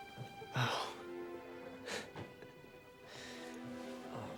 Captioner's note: scoffs